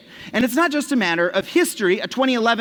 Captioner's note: none